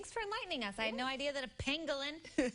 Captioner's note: chuckling